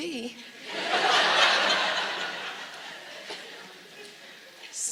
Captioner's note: audience laughs